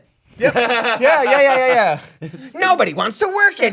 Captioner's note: laughing